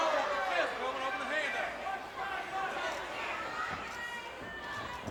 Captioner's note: referee speaks faintly